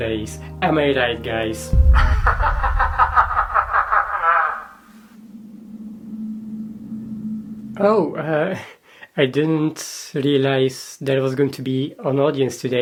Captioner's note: ominous laughter